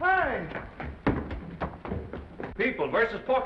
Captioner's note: footsteps receding